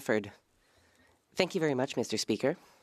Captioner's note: speaking French